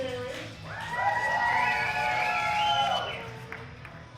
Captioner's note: crowd cheering